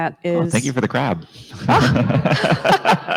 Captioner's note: laughs